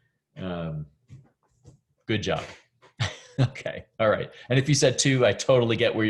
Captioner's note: laughs